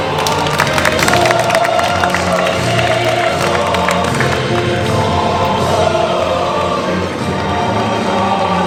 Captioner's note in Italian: Applauso